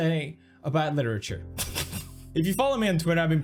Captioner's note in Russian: кек